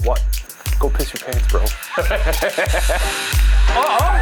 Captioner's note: laughs; upbeat music